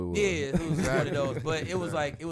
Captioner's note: laughter